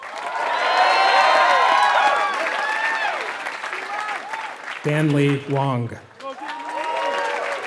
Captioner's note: applause